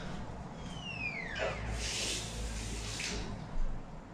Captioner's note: Leona sighs; door creaks